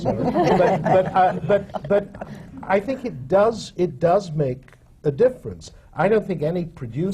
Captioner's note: laughter